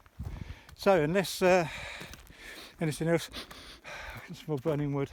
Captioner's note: sniffs